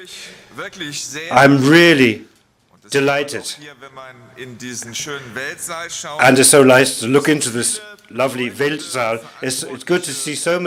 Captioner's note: German spoken